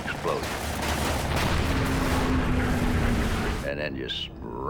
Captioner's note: booming; engine whirring